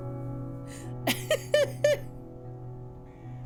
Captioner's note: laughter